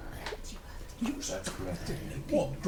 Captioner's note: whispers